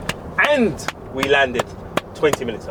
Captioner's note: hype clapping